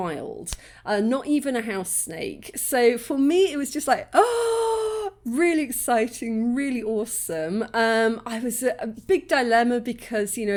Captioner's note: gasp